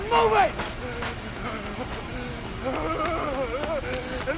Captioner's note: Toomey Whimpering